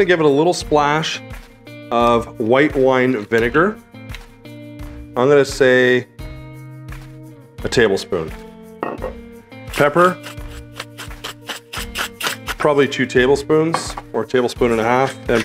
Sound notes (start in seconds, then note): 9.6 pepper grinding